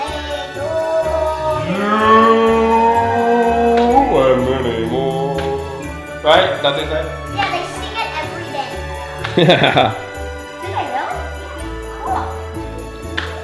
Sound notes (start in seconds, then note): 9.4 cameraman laughs